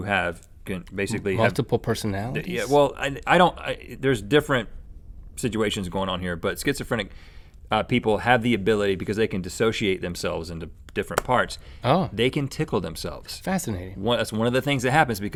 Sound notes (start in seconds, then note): none